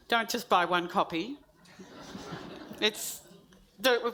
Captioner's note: audience laughs